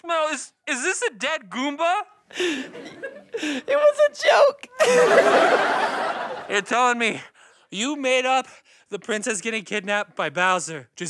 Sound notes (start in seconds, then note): 2.3 laughing